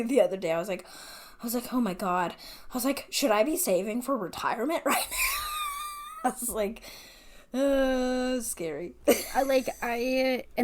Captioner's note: laughing